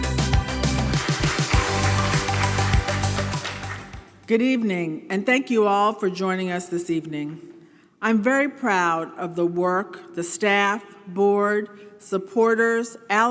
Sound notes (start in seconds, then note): 0.0 audience applauding